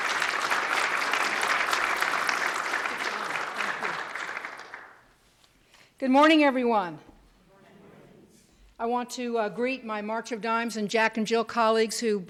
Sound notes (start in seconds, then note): 0.0 cheers and applause